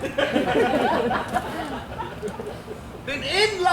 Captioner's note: audience laughs